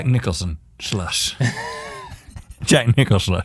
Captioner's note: laughing